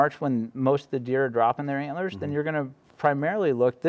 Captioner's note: none